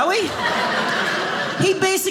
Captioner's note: audience laughing